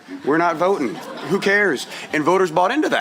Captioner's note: laughter